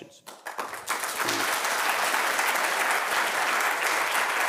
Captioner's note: audience applauding